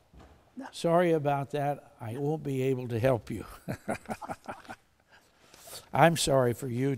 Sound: chuckles

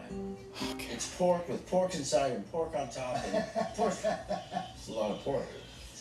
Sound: laughing

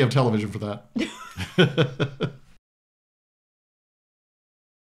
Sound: both laugh

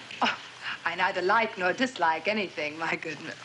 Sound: scoffs

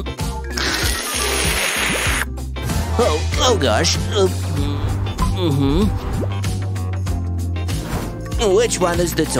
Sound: taking a sip

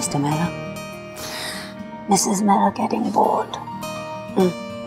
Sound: Ananya gasps

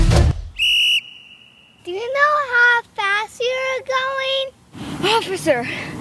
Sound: whistle blows

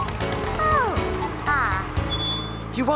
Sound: crane groaning

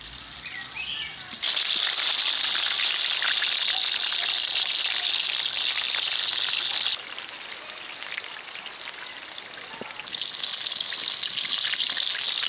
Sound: oil sizzling

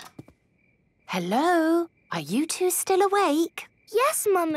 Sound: whisper

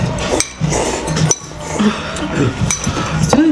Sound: slurp

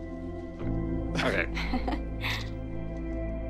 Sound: laughs

